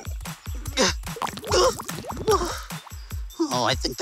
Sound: soup dribbling; Duo yelps; duo grunting

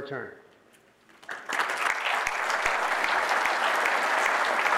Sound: audience applauding

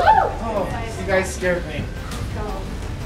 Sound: sighs loudly

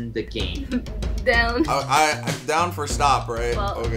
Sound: chuckles

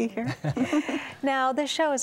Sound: laughter

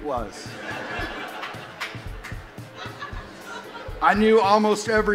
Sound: audience laughs

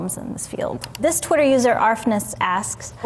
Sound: mouse clicking

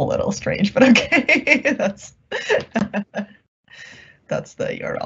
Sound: laughing

